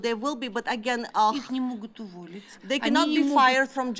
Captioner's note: speaking russian